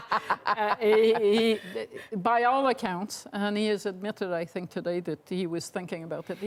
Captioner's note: laughter